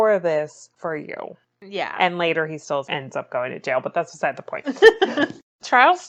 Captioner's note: laughs